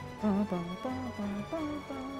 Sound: humming

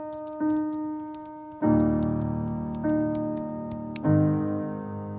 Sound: slow piano music; computer keyboard typing

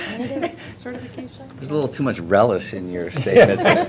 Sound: laughter

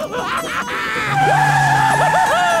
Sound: laughing; tires squealing; laughing

